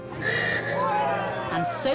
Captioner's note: cheering